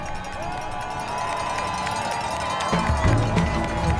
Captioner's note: cheering